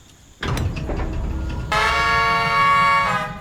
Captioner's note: brakes release, whistle